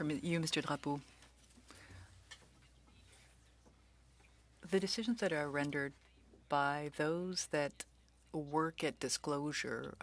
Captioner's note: speaking French